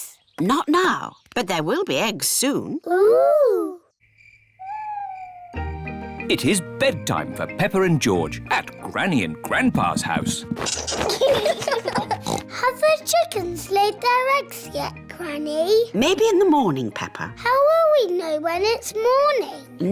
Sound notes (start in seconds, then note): 3.9 crickets chirping; 10.6 both giggling; 12.1 oinks